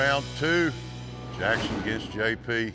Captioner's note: gates clank open